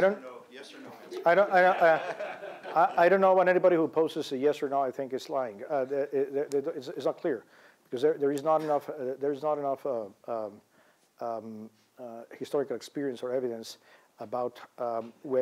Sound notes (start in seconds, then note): 1.2 laughter